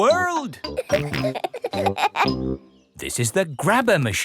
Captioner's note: peppa and george laughing